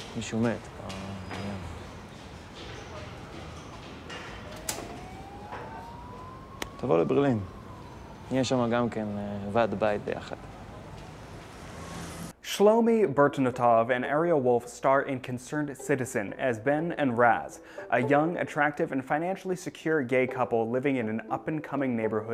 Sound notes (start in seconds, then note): 0.1 speaks in foreign language; 3.9 people chatter; 5.2 siren wails; 6.7 speaks in foreign language